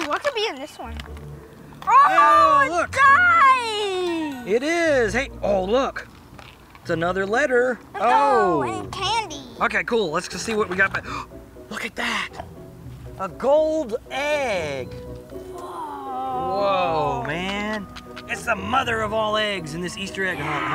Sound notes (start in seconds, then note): 11.0 gasps